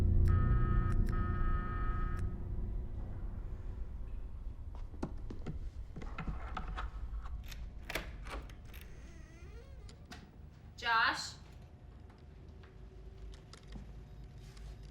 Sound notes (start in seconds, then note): 6.3 lock clicks; 7.7 door creaks